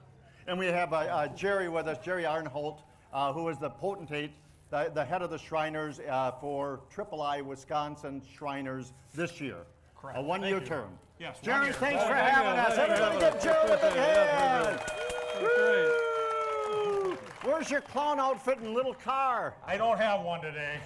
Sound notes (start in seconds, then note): 14.5 audience cheers